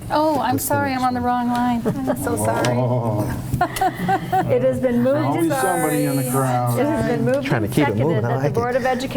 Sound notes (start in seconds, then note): 3.6 woman laughing